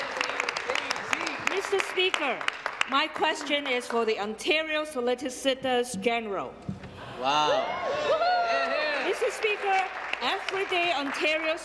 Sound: applause; cheers

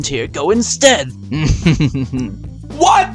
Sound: laughing

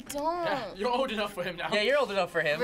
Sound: laughs

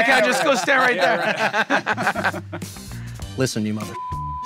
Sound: all laughing

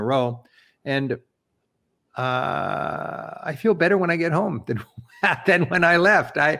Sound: laughs

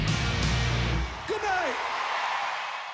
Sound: crowd cheering

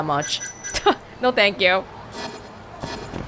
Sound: chuckles

